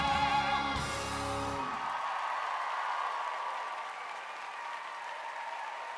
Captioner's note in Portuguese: audience cheering and applauding